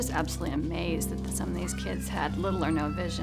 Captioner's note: female voice